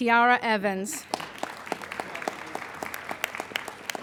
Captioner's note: applauding